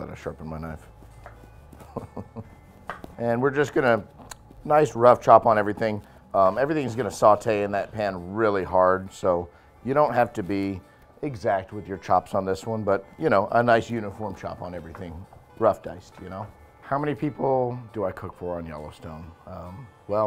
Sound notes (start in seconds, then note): 3.6 laughs